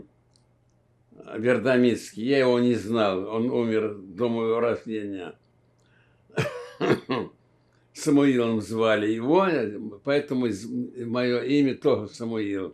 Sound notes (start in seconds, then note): 6.3 coughing